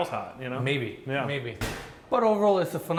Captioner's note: drawer closes